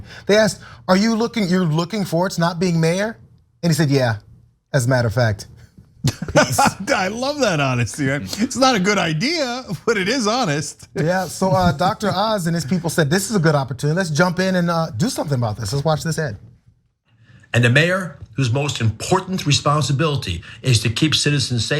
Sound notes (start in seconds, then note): 6.0 laugh